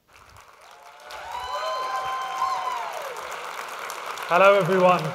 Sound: audience claps and cheers

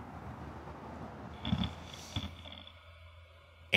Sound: grinding

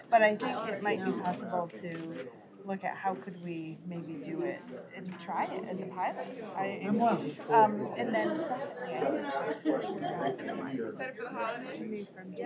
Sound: off-mic chatter

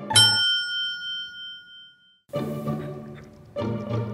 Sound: clock beeps

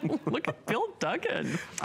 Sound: laughter

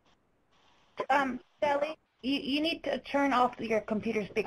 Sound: voiceover

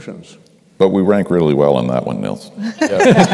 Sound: laughter

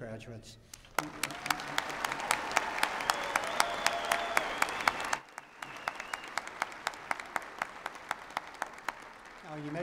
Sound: applause

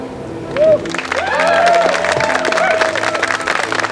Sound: clapping

